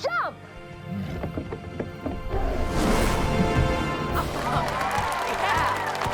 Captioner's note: Sage growling; audience cheering